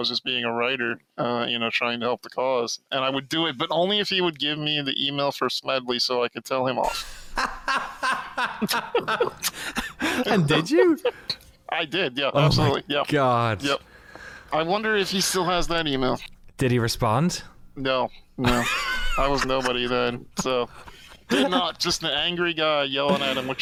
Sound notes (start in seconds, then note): 6.9 laughter